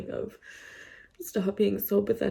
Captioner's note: inhales audibly